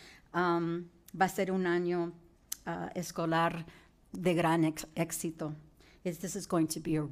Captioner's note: speaking in foreign language